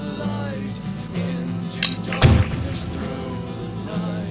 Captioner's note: knife closing